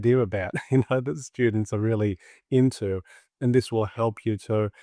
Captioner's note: laughs